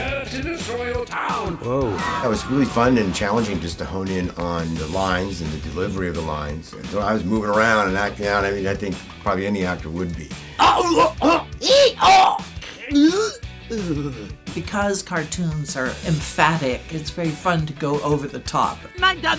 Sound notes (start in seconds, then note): 10.5 over the top fake choking